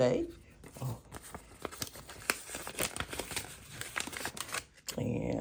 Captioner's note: envelope rustling